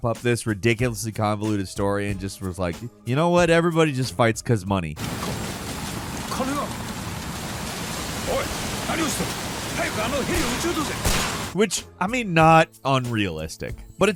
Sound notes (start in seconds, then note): 6.4 character speaking in Japanese; 10.2 gunshots bang